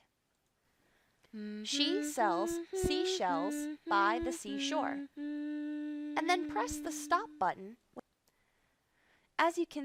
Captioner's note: humming